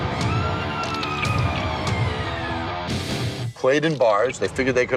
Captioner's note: dramatic rock music; woman screaming